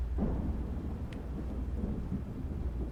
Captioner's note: thunderstorm